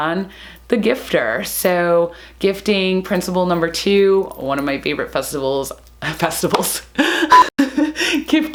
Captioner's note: laughs